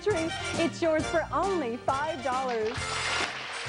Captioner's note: applause